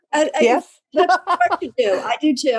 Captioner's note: laugh